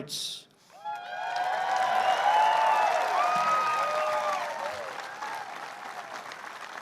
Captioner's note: applause